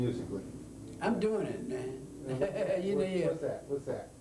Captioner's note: laughs